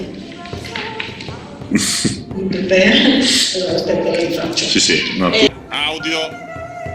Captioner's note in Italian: Risata